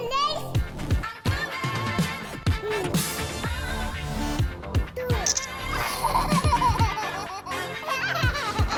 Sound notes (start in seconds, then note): 5.0 baby laughs